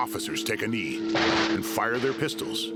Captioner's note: helicopter whirring; gunshots; gunshots in distance